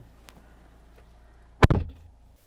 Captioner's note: door Thud